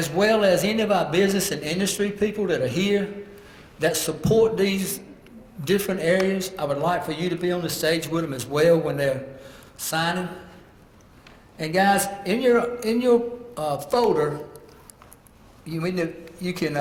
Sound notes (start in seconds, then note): none